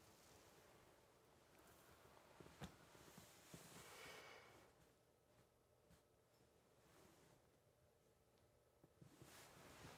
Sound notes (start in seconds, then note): 1.4 cloth rustles